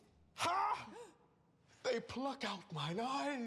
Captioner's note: gasps